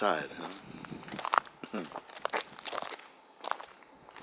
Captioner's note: sound of footsteps